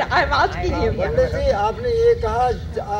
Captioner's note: in Hindi